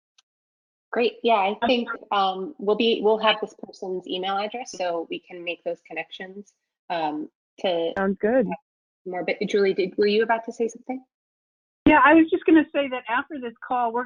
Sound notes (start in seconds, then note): 2.3 speaking faintly; 6.9 speaks faintly